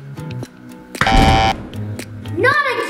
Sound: button punches

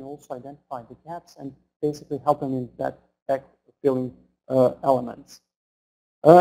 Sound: stutters

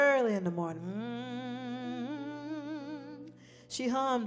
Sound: humming

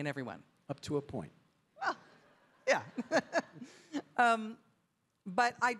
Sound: chuckles

